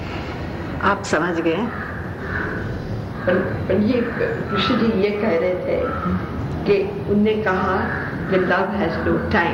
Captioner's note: discussion In Hindi